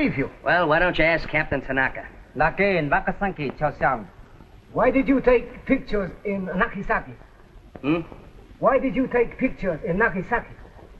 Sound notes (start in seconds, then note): 0.0 speaking japanese; 2.2 speaking japanese